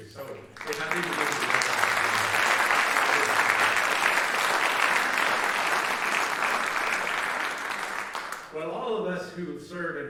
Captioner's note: applause